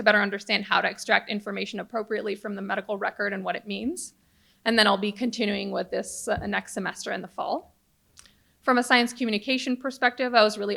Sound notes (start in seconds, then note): none